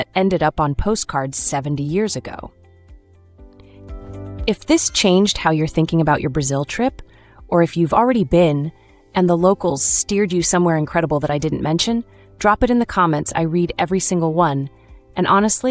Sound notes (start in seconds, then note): 0.7 confident